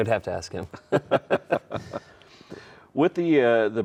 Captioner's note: both chuckling